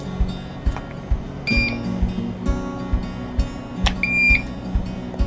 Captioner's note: IV pump beeping